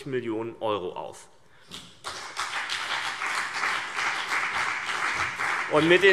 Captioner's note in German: Beifall CDU und BÜNDNIS 90/DIE GRÜNEN